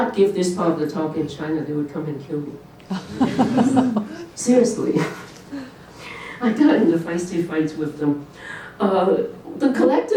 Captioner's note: laughter